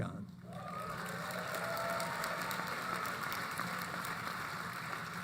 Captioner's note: applause